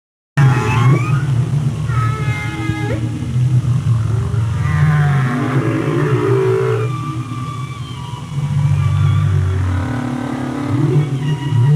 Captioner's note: whale song